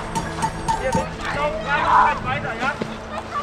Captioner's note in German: Schreie